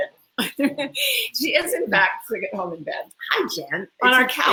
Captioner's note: laughs